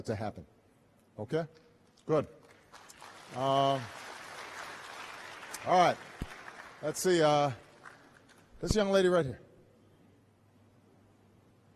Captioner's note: applause